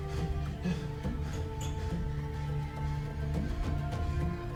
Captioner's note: governor panting